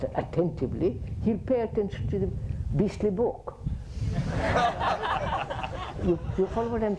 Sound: laughter

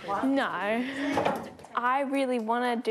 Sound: laughs

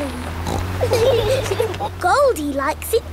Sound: laughing

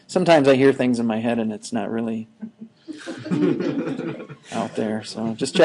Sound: students laughing

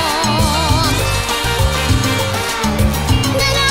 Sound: cheers

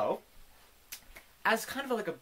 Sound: clap & smack combo

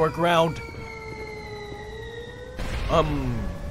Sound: descending whistle; distant explosion

